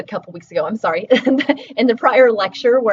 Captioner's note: laughing